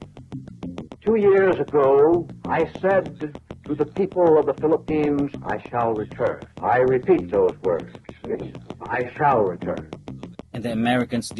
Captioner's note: General Mac Arthur speaking